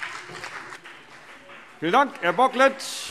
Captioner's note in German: Beifall BÜNDNIS 90/DIE GRÜNEN